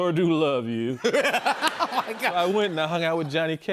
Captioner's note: laughter